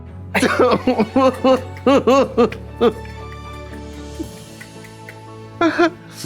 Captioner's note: blonde Women cry and clap